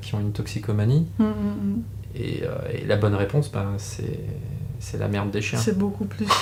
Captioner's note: laughs